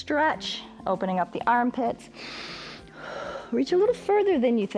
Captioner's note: inhales and exhales